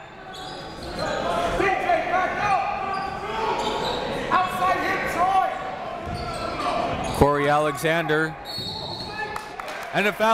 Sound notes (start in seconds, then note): 0.0 crowd talking; 0.6 coaches yelling; 8.4 whistle blows